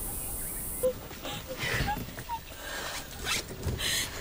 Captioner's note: Jessica Crying